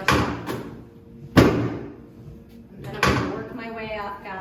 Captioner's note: table thump